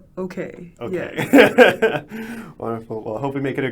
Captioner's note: laughing